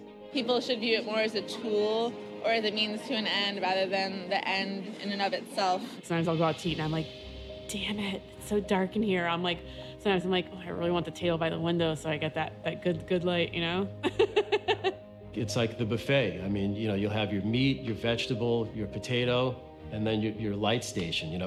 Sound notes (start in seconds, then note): 14.0 she laughs